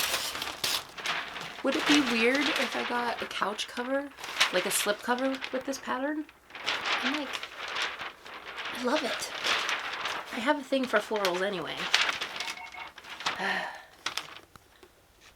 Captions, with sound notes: would it be weird if I got a couch cover like a slipcover with this pattern I'm like I love it I have a thing for florals anyway [beep beep beep] [sigh]